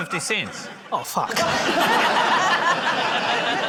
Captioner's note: laughter